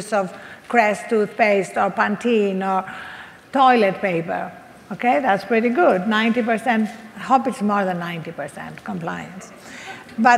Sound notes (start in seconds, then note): none